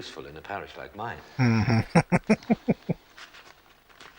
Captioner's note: chuckling